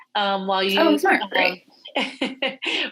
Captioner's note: laughing